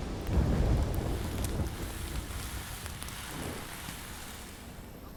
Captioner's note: fire sizzling